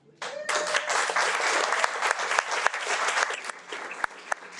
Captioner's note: audience applauding